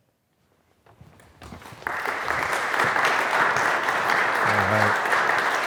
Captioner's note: audience applauds